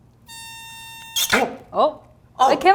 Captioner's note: high pitch sound